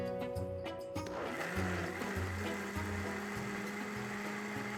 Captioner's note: blender whirring